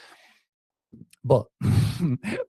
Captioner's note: laughs